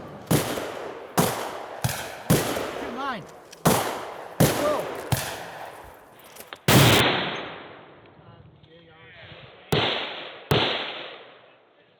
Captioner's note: gunshots